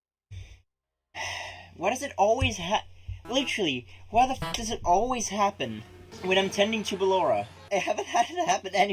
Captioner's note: sigh